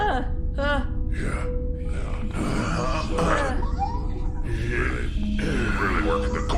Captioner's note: grunting with exertion